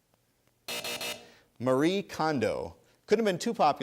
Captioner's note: buzzer